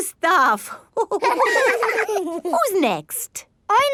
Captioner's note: all laughing